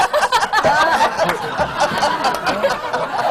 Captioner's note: much more laughter